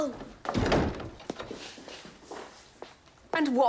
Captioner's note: door closes